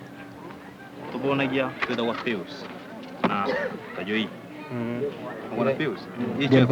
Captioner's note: speaking Swahili